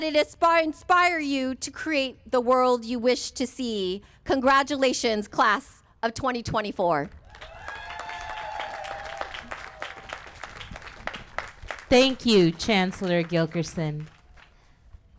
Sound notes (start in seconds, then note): 7.2 applause